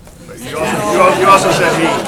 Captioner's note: laughter